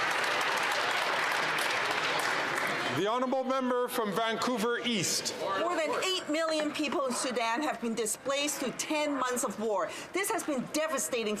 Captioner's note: some Applause